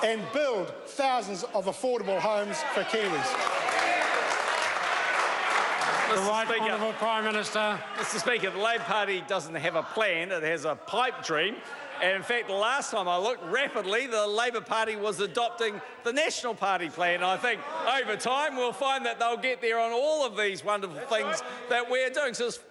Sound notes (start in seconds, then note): 4.3 members applaud